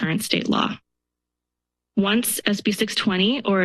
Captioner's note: pause